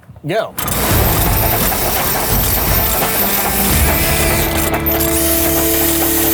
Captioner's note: tools buzz and rattle; upbeat rock music